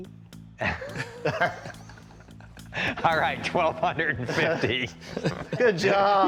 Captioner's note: laughs